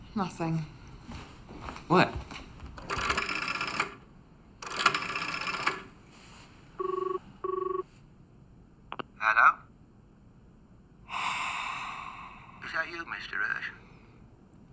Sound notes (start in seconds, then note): 3.9 phone ringing; 4.6 phone clacking; 11.0 heavy breaths